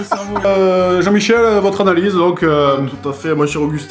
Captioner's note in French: rires; voix commentateur